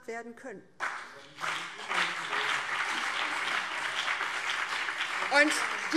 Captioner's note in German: Beifall